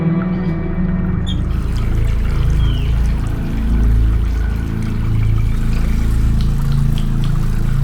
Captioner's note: ominous music continues; water splashing; knob squeaking